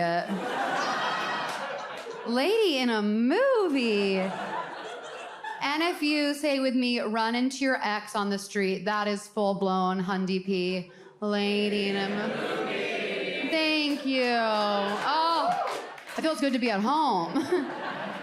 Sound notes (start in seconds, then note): 0.1 audience laughs; 13.4 audience claps